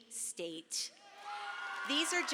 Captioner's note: audience cheers